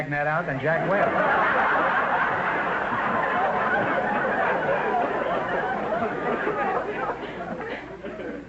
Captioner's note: audience laughter